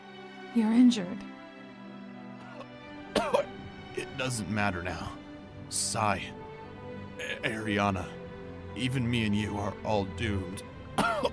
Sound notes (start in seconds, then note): 2.3 coughs